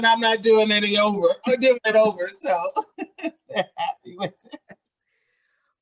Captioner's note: laughs